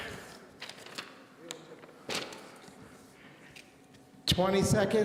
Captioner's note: paper rustling